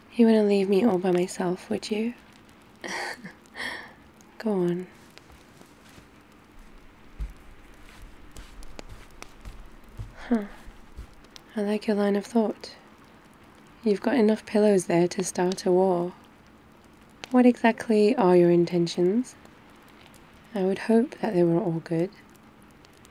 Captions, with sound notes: you wouldn't leave me all by myself, would you? *laughs* go on *footsteps* huh, I like your line of thought you've got enough pillows there to start a war what exactly are your intentions? I would hope that they were all good